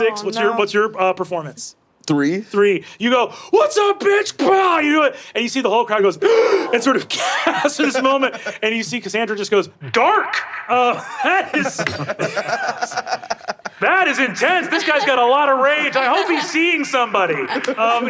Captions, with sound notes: - Six. What's your performance? - Three. - Three, you go, "What's up, bitch?" (grunts) And you see the whole crowd goes (gasps) and sort of gasps in this moment, and you see Cassandra just goes, "Dark! That is intense! This guy's got a lot of rage! I hope he's seeing somebody."